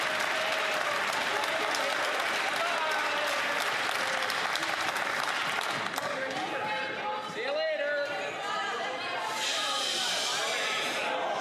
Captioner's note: some Applause